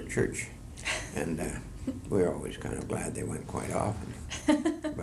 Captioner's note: laughter